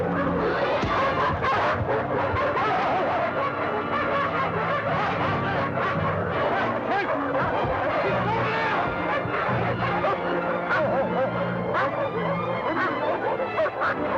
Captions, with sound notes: [dogs barking] [yelps] Keep moving!